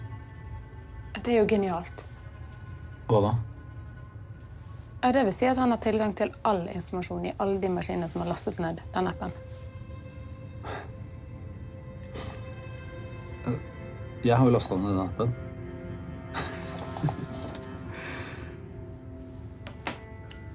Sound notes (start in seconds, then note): 16.3 chuckles